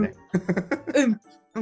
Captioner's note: laugh